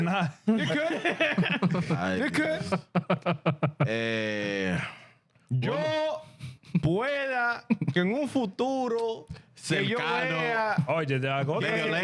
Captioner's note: laughter; speaking In Japanese